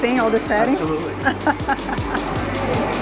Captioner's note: laughs